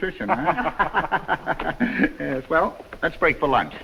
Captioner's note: all laughing